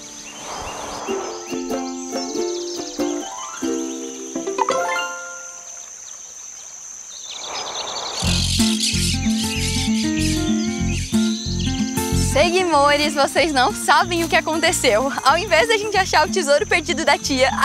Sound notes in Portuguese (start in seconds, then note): 0.0 Pássaros